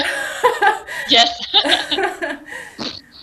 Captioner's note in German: Lachen